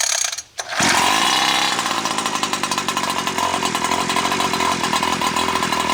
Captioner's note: RC monster truck engine revving